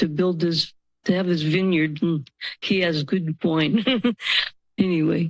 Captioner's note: laughs